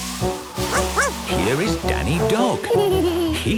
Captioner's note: barking; laughing